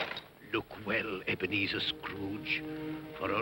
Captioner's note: metallic rattling sound; irritated voice